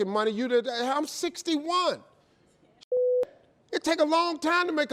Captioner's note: beep